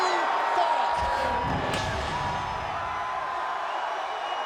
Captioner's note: crowd cheers